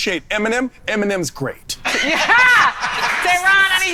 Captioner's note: everyone laughing